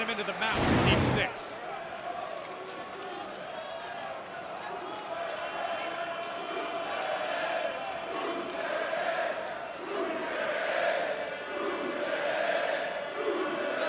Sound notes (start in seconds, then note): 2.0 crowd cheering